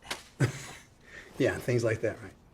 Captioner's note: chuckles